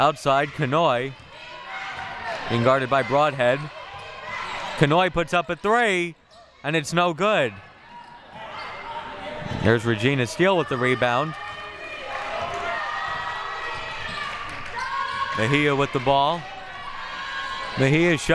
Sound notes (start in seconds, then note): 12.4 audience chattering and yelling